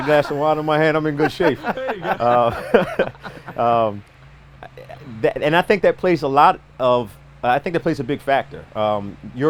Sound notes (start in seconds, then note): 0.0 everyone laughs